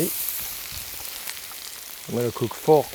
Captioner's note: pan sizzling